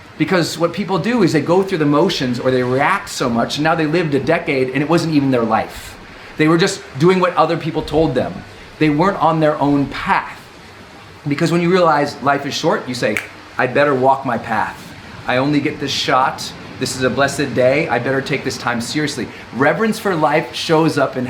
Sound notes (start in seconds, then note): 13.1 snaps